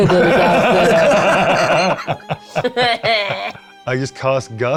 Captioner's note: cast laughs